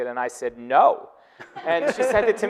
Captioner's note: audience laughing